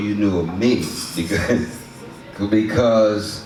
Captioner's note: laughs